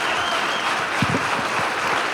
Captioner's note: applause